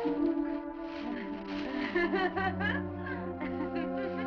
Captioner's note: laughing